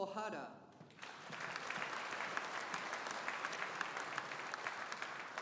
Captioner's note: audience applauding